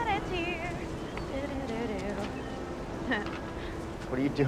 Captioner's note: humming